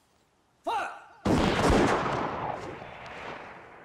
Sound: guns firing

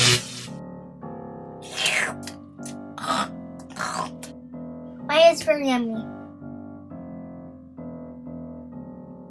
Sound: eating noises

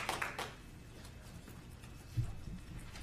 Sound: applause

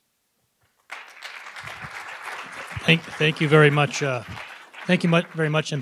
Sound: audience applauding

